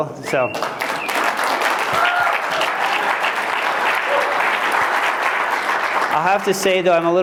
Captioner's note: applause